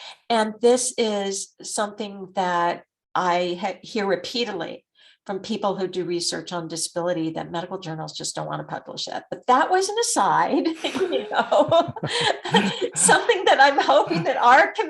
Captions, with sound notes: And this is something that I hear repeatedly from people who do research on disability, that medical journals just don't wanna publish it. But that was an aside, (both laughing) something that I'm hoping that AHRQ